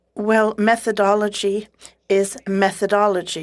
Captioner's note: speaking French